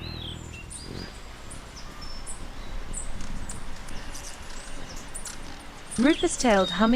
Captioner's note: birds singing